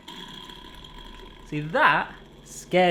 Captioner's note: rattling